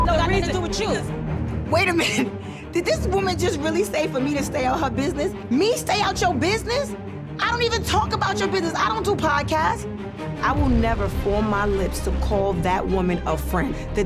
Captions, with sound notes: that don't got nothing to do with you. Wait a minute? (laughing) Did this woman just really say for me to stay out her business? Me stay out your business? I don't even talk about your business. I don't do podcasts. I will never form my lips to call that woman a friend.